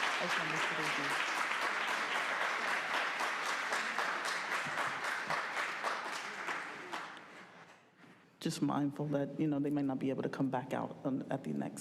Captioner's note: applause